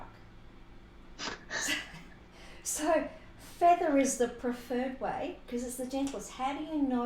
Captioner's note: laughter